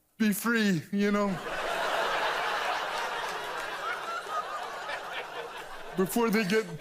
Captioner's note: audience laughs